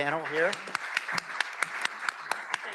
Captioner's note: applause